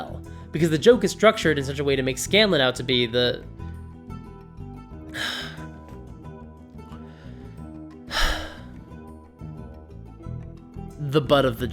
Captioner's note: sigh